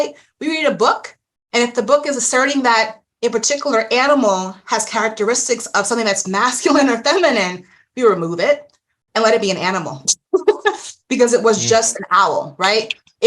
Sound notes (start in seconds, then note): 11.6 chuckles